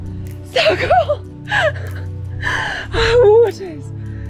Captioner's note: laughs